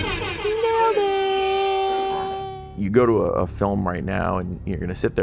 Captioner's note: air horn blares